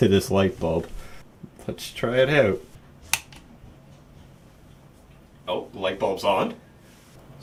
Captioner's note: click of a switch being pressed